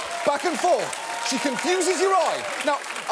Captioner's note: audience applauding